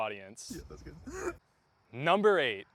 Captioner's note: laughing